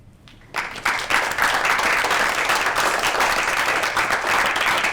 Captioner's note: applause